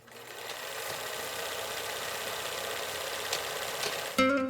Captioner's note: film Reel Sound